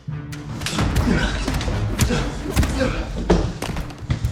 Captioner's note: punches striking